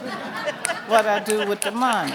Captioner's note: audience laughing